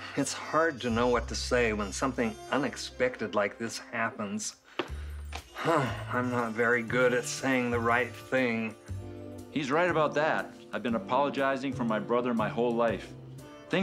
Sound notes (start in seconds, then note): 5.5 sighs